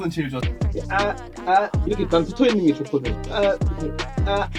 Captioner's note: speaking Korean